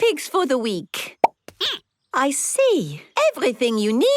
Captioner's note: squeaking